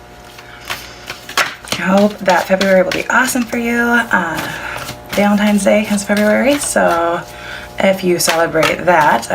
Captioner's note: shuffling